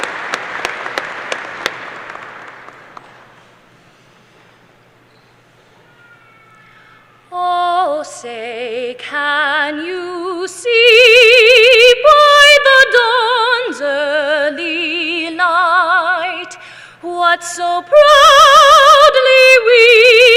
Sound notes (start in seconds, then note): 4.5 applause